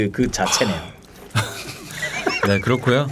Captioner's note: laughing